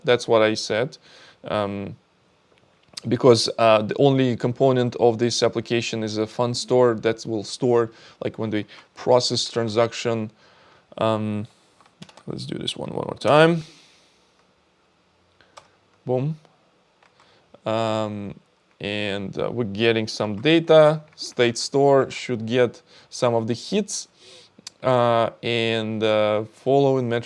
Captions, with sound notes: That's what I said because the only component of this application is a fun store that will store like when do we process transaction? (keyboard clicking) Let's do this one more time. Boom, and we're getting some data state store should get some of the hits and following metrics would be